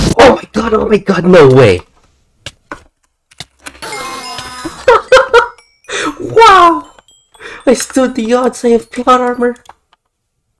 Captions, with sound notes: Oh my god, oh my god, no way! [silence accompanied by damage tick noises] [victory jingle] HAHAHA [inlahes] WOW [inhales] I stood the odds, I have plot armor! ...